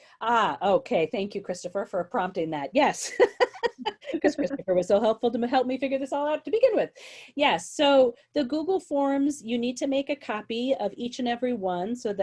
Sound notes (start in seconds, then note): 3.1 chuckles loudly